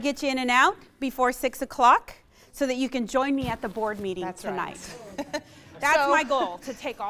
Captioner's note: laughs